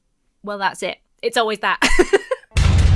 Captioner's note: laughs; music stabs